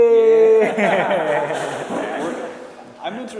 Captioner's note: laughing